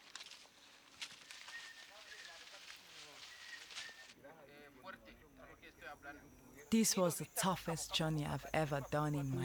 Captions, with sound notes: [BRANCHES RUSTLING] [INDISTINCT CHATTER] This was the toughest journey I've ever done in my life.